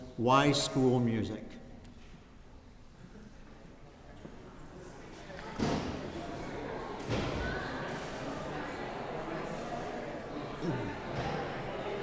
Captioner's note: audience voices